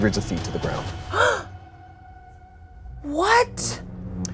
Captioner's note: gasps